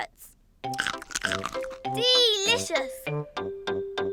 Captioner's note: crunches